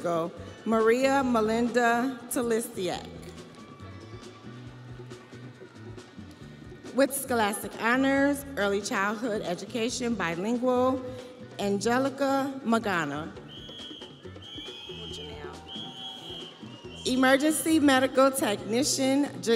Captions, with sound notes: Post Baccalaureate Legal Studies, Paralegal, Maria Melinda Telistiac. With scholastic honors, Early Childhood Education, Bilingual, Angelica Magana. (whistle blaring)